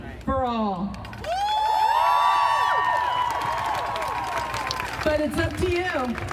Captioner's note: crowd cheering and applauding